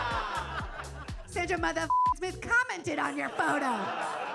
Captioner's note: beep